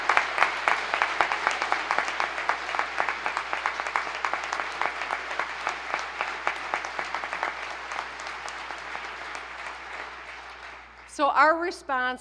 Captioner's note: applause